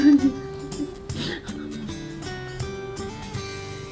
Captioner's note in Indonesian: tertawa